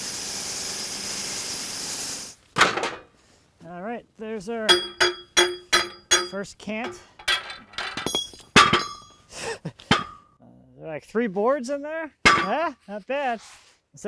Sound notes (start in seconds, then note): 4.6 metal tapping; 7.9 metal clanging